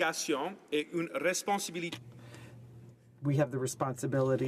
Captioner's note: speaking French